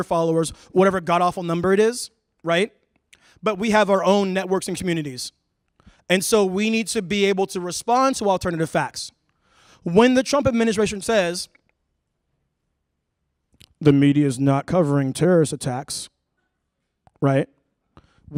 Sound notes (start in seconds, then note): none